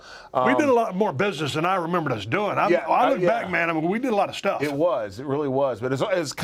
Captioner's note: none